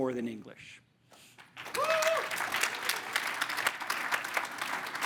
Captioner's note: crowd applauds